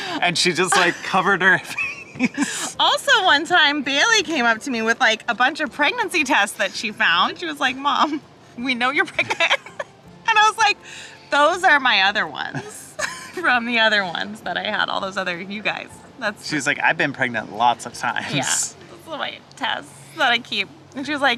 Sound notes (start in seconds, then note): 0.0 chuckles; 9.1 chuckles; 12.9 chuckles